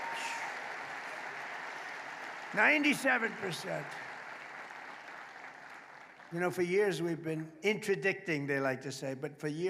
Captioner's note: applause; applause